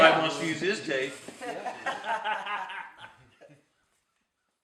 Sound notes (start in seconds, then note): 3.0 laughter